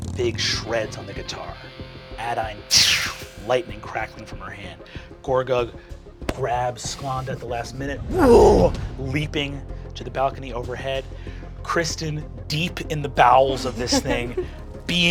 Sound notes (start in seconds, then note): 2.8 whooshing; 8.0 roaring